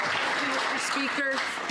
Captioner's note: some Applause